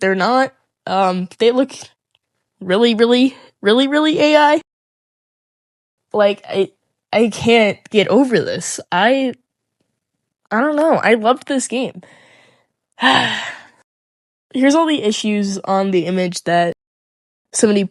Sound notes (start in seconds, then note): 13.0 sigh